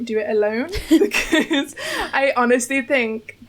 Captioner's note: laughs